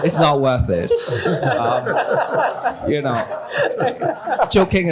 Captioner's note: laughter